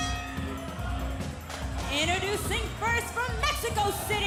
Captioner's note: bell ringing